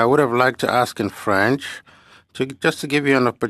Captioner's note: speaking French